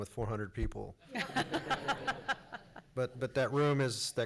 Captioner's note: laughs